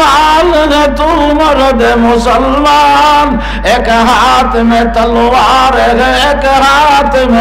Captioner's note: Urdu poetry